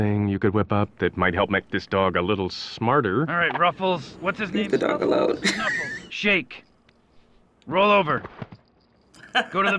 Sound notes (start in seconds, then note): 5.0 chuckles; 9.2 laughs